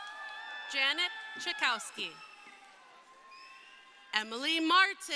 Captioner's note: crowd cheering